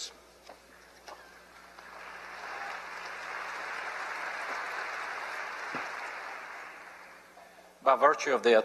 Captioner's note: applause